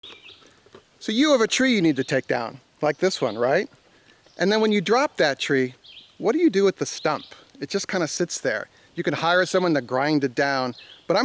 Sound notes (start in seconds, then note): 0.0 bird chirping